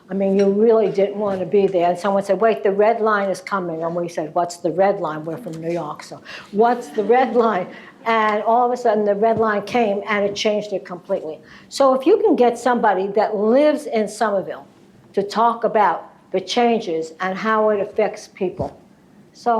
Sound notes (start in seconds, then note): 6.7 laughter